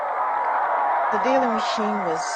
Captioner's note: female voice